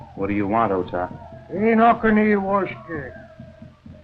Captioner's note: speaking Native American language